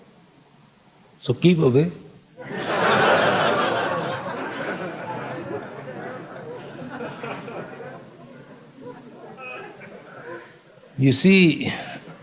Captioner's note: laughter